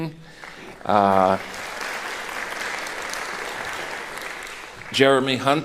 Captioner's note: applauding